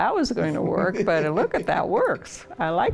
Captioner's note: laughs